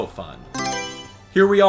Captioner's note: Mario Selection Sound